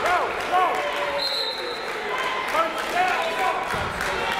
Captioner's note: whistle